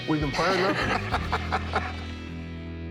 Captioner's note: laughing